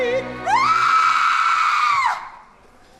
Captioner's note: scream